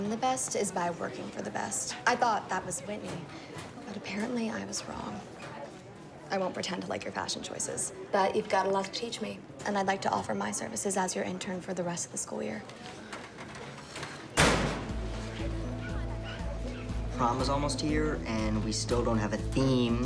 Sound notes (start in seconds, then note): 14.3 locker door slams